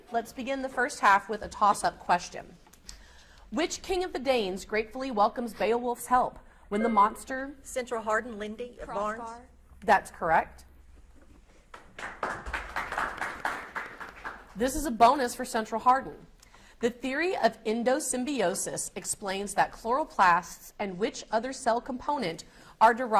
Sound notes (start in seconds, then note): 11.7 audience applauds